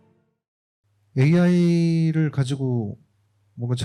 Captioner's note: speaking korean